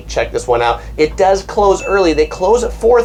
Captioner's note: bell dings